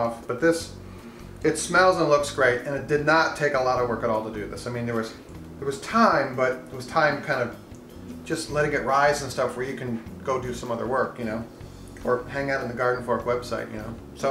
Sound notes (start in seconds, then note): none